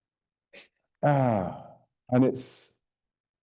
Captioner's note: sighing